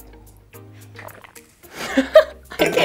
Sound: swallows; laughter

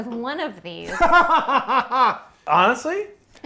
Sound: laughing

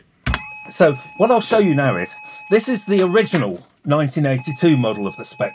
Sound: computer sound

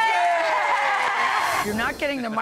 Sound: audience cheers

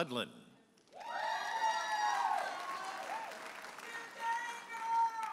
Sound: audience applauding and cheering

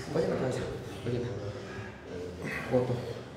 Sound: grunting and panting; speaking Spanish

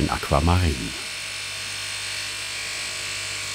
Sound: machine noise

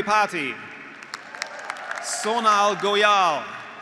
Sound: graduates applauding; graduates cheering

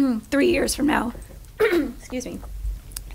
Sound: clearing throat

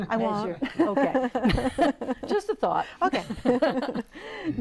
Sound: laughing

